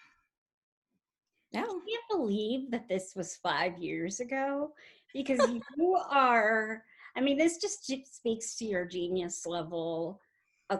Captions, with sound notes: Yeah. - Can't believe that this was five years ago, because who you are, (laughs) I mean, this just speaks to your genius level